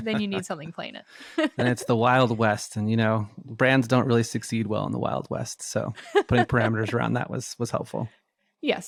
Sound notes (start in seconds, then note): 1.3 both laughing; 5.7 laughs